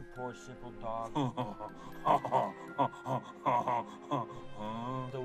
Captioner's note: dog laughs